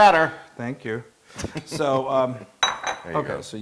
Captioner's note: laugh